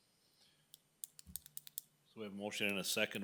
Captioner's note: pen clicking